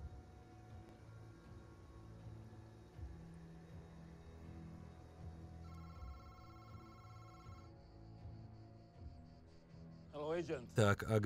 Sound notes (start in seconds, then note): 5.6 phone rings